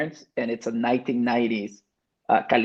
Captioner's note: speaks Spanish